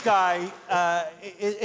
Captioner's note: cheers and applause